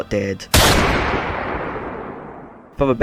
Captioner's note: gunshot